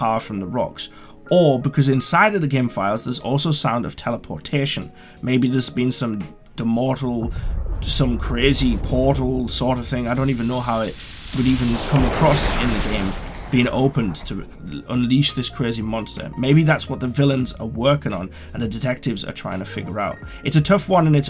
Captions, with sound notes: from the rocks or because inside of the game files there's also sound of teleportation maybe there's been some the demortal. [Portal sound effect] Some crazy portal sort of thing I don't even know how it would even come across in the game being opened to unleash this crazy monster maybe that's what the villains are working on and the detectives are trying to figure out it's a tough one and it's